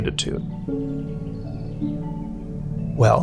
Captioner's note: birds chirping